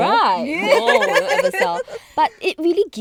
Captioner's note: girls laughing